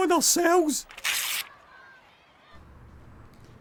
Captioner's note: paper tears